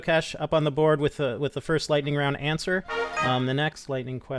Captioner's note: cheerful chime